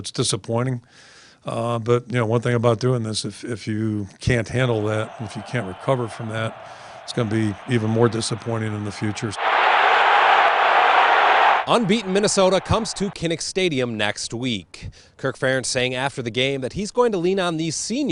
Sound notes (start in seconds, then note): 13.3 crowd